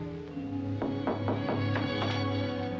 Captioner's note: knocking on door